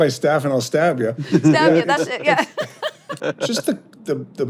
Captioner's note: hosts laughing